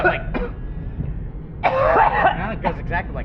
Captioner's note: hard coughs from backseat